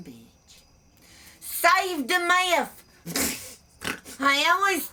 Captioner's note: laughs